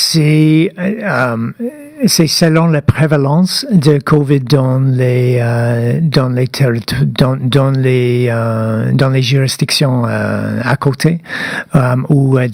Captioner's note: speaking French